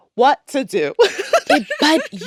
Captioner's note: laughs